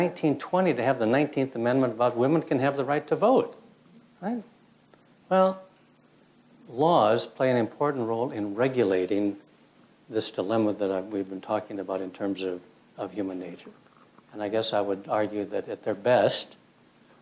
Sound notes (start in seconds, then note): none